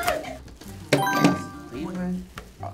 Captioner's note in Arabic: قرعات الجرس